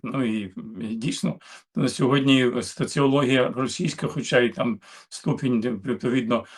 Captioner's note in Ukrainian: прочищення горла